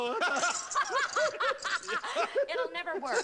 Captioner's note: laughing